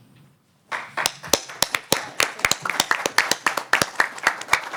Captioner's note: applause